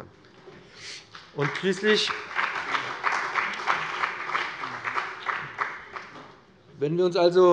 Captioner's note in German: Beifall bei dem BÜNDNIS 90/DIE GRÜNEN und der CDU